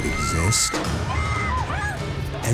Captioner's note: woman screaming